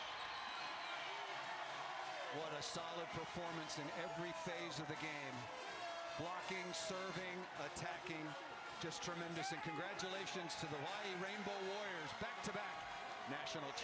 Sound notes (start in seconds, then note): 6.6 applause; 7.1 crowd noise